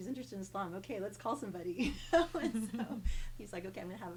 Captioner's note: laughs